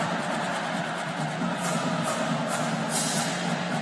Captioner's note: whistle